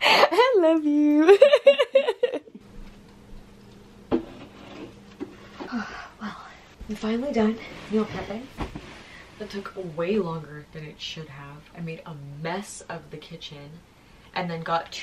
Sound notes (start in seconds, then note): 1.2 more laughter; 5.4 exhales